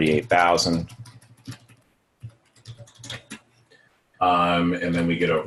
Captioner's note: typing